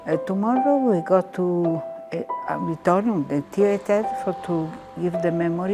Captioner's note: speaking in foreign language